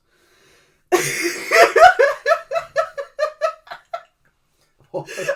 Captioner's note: laughs